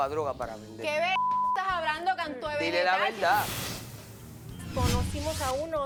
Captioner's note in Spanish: Bip